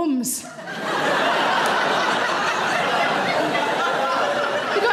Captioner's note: audience laughing loudly